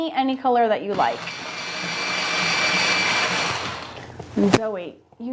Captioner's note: sharpener whirring